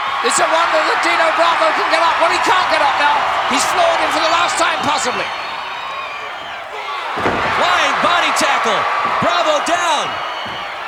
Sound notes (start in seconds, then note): 8.2 audience cheering